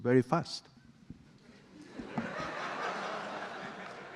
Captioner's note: audience laughing